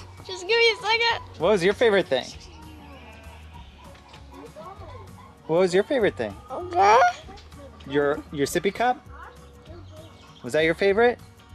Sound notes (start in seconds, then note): 7.4 baby babble